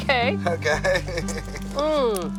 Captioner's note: laughs